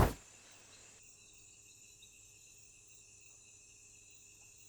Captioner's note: crickets chirping